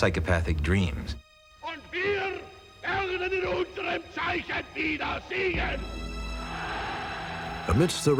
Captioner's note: speaking german